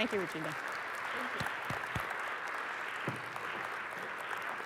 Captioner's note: applause